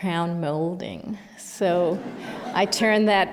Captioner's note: laughter